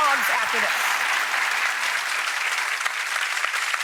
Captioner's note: applause